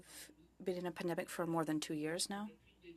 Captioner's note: speaking French